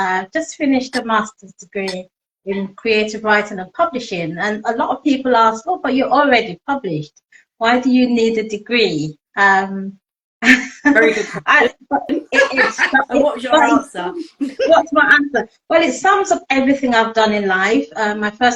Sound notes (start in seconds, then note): 10.8 laughing